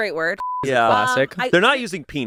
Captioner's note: beep